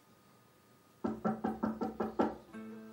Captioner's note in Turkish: Kapı çalıyor